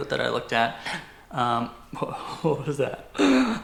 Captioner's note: gasps